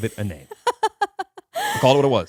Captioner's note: laughing